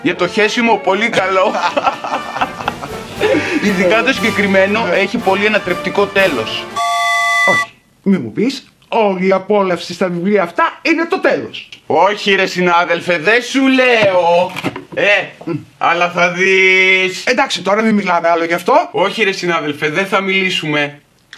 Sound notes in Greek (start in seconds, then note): 1.2 γέλια; 6.7 σφυρίχτρα